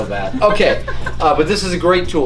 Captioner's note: laughing